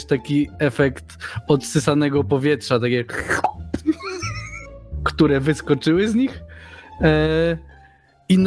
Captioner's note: pop